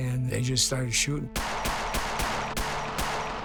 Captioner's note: gunshots popping